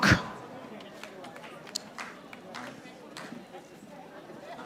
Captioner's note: audience applauding